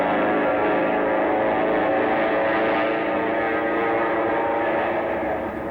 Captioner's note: airplane engine roaring